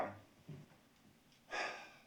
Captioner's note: sighing